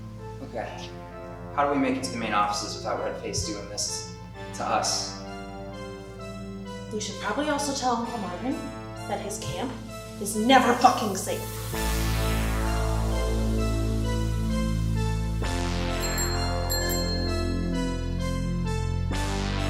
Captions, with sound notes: Okay, how do we make it to the main offices without Red Face doing this to us? - We should probably also tell Uncle Marvin that his camp is never fucking safe. (ominous music) (bell ringing)